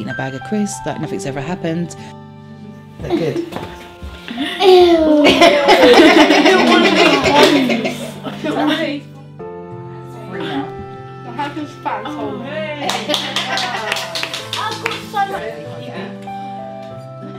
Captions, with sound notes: eating a bag of crisps like nothing's ever happened. (laughter)